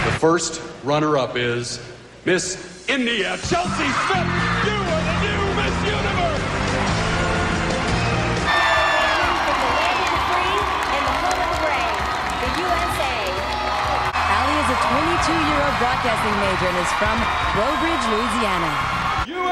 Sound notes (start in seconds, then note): 6.5 soul music; 8.4 crowd cheering and applauding; 11.7 crowd cheering and applauding